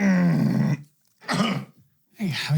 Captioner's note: grunts